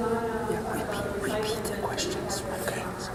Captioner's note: murmurs